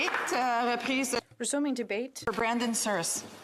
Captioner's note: some Applause